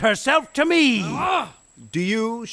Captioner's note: Robin growls in anger